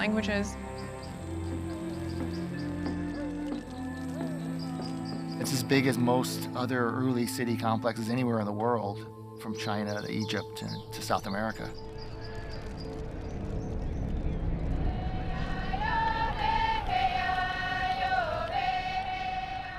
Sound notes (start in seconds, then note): 2.9 man chanting in Native language; 12.2 crowd murmuring and fire crackling